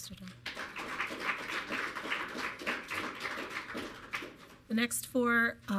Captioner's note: audience clapping